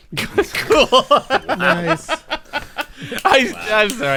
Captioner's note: laughter